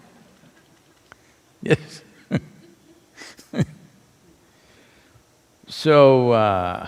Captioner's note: laughs; laughter